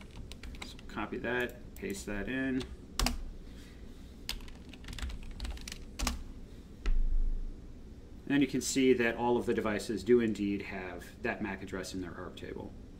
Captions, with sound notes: So copy that, paste that in. (keyboard typing) And you can see that all of the devices do indeed have that MAC address in their ARP table.